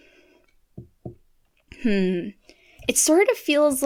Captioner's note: tap tap